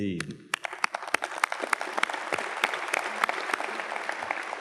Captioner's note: audience claps